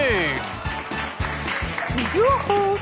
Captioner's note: applause